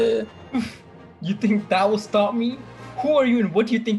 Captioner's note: chuckle